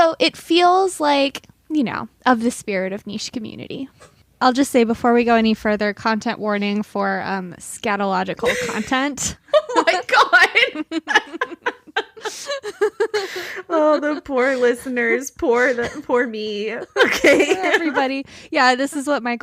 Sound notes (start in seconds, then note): 12.9 laughing